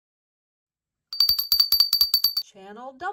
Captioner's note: bell rings